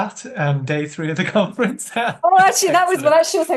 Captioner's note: laughing